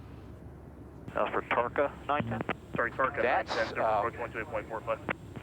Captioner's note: airplane traffic communication